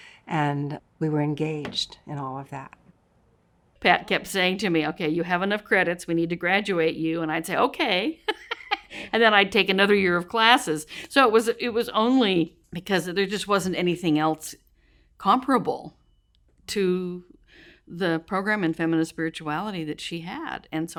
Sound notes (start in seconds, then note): 8.2 laughs